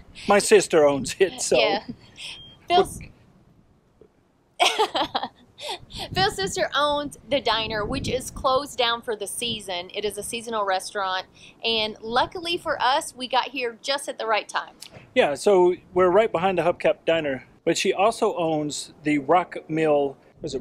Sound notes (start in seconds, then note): 4.6 laughs